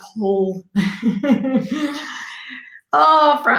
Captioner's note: laughs